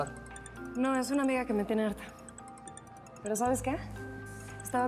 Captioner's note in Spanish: celular sigue sonando